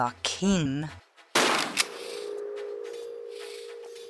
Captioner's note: bam